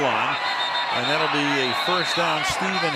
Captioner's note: whistle